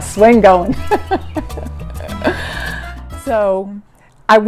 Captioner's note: laughs